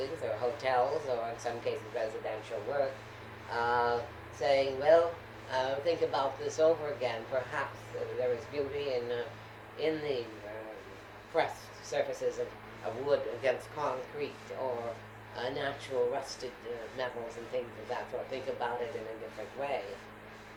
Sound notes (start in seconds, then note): none